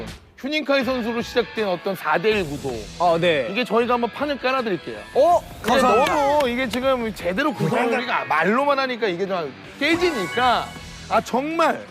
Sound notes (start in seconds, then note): 5.7 big applause